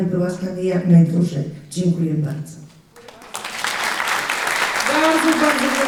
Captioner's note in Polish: oklaski